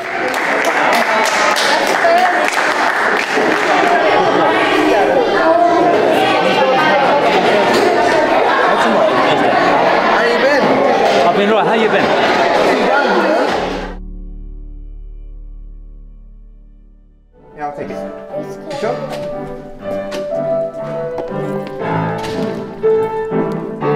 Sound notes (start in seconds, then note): 0.0 students clapping; 7.8 overlapping chattering; 20.8 upbeat piano music